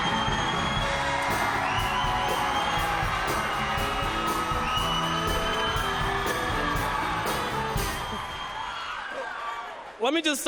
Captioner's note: applause